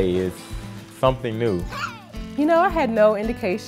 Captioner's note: screams: HEY!!!